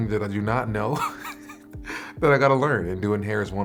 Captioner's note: laughter